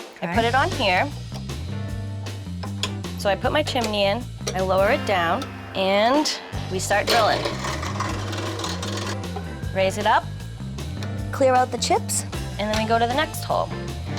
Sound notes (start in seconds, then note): 7.1 drilling